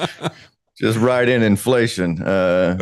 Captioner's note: laughing